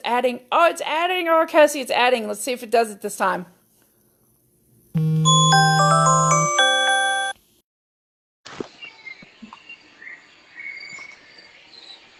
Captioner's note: phone alarm goes off